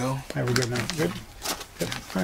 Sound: paper rustling

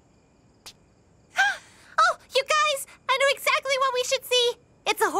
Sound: gasp

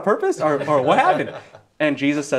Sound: all laughing

